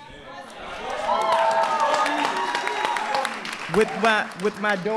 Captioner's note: applause